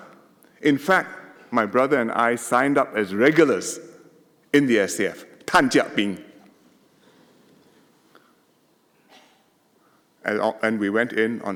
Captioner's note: in Hokkien